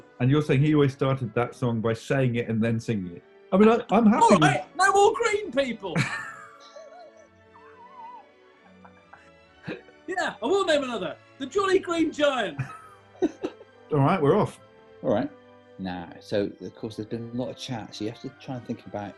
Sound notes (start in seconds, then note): 5.9 laughter